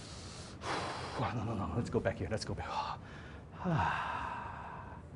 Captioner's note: sigh